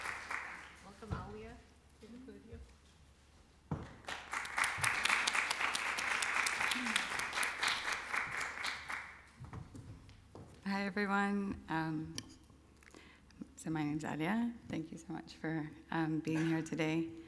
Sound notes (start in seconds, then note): 3.9 applause